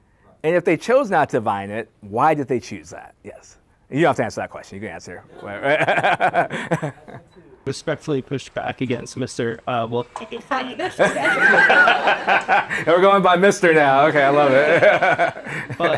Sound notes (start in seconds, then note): 5.4 laughter; 10.8 laughter